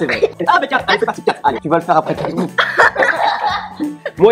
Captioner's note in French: rires